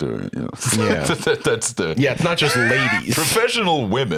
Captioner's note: laughs